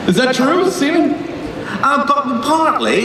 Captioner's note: voiceover